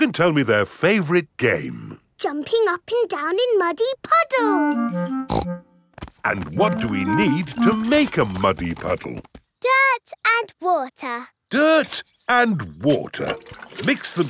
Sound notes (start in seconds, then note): 5.3 snorts